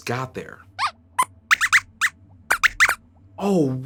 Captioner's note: squeaks squeaks